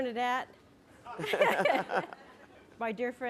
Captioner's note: laughter